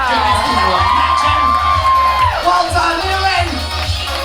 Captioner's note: audience cheering